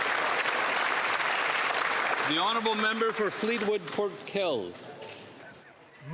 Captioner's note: applause